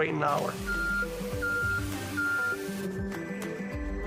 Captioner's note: beeping